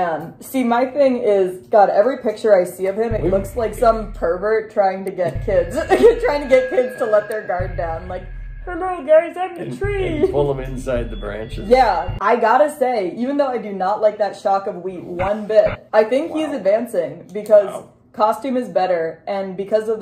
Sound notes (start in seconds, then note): 5.1 creepy music; 8.3 weird voice